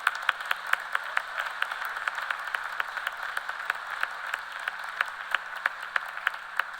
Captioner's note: cheers and applause